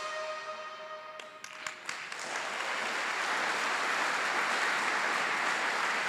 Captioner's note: applause